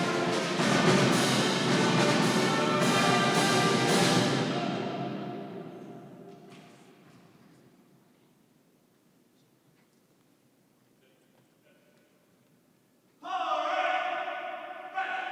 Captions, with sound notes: (commander speaking faintly) Forward face!